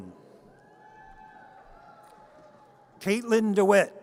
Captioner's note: audience cheers